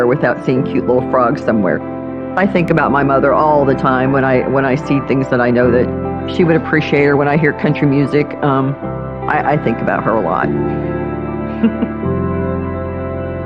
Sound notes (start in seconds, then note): 11.6 laughihing